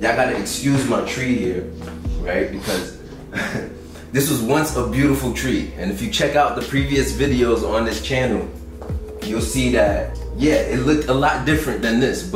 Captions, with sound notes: Y'all gotta excuse my tree here, right? Because (chuckles) this was once a beautiful tree. And if you check out the previous videos on this channel, you'll see that yeah, it looked a lot different than this.